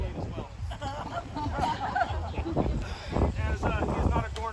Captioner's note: laughter